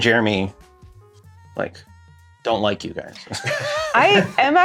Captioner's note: laughter